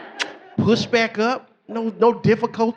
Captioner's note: smooches